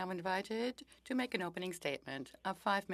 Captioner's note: speaking French